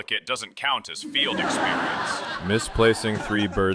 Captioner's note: audience laughter